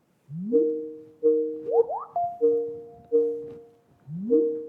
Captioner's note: laptop ringing